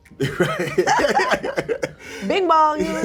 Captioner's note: laughter